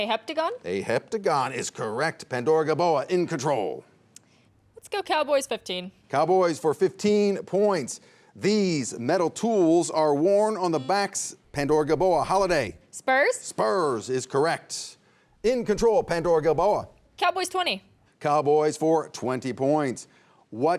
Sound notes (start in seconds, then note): none